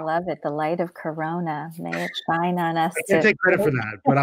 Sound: laughter

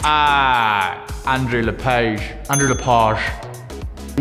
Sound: correct bell

